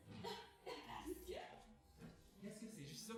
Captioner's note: cough